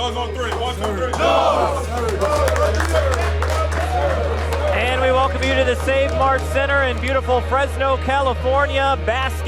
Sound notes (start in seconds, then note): 2.8 team applauds; 4.5 team chattering; 5.3 pensive dramatic music